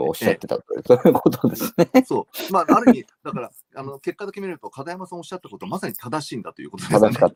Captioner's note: laughs